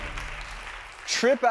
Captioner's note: audience clapping